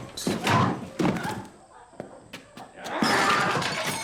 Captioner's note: screaming; yelling